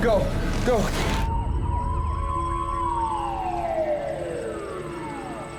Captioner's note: sirens wailing